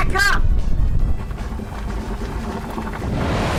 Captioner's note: rumbling continues